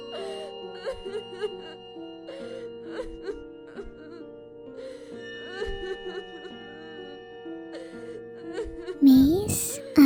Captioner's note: woman Crying